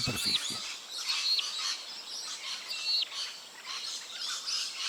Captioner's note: ambient sounds, birds chirps